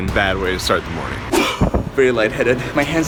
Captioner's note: sigh